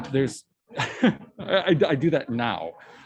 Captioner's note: chuckles